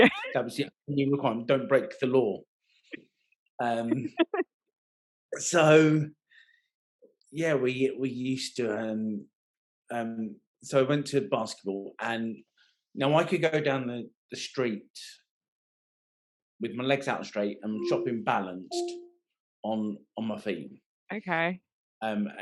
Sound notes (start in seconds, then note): 0.2 laughing